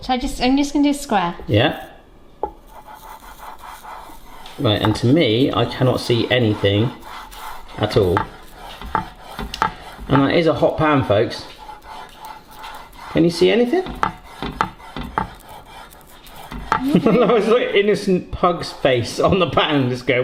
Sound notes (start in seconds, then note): 3.0 garlic scraping on pan; 16.7 chuckling